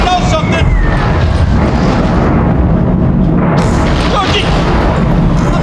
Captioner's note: explosions booming continue